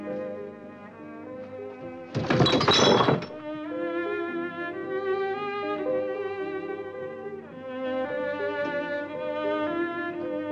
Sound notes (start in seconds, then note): 2.1 bottles clatter